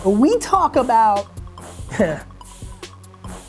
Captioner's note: clears throat